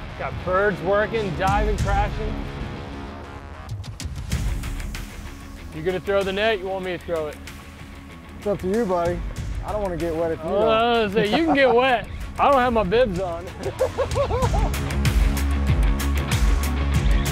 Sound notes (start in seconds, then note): 13.9 laughs; 14.4 upbeat music